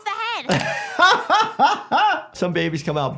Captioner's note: laughing